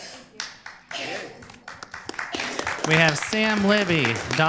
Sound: applause

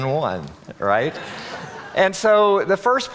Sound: audience laughing

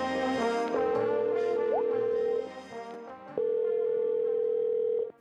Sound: cheerful music; phone ringing

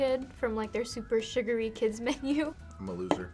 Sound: laughs

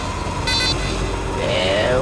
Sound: beep, beep

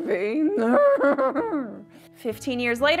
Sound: groans

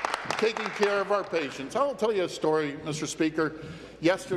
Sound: applause

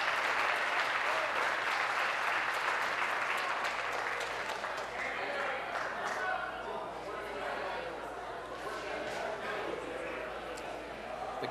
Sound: applause

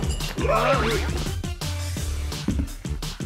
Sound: screams

